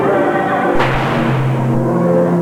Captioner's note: gunshot